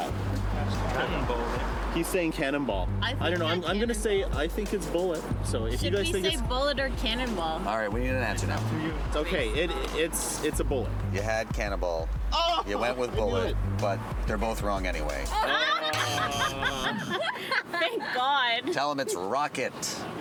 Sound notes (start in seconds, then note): 15.1 buzzing; 17.1 laughing